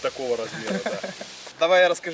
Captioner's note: laugh